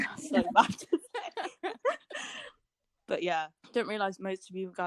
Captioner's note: laughter